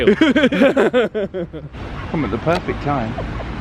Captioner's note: both laughing